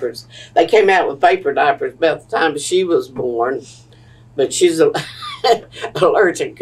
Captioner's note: laughter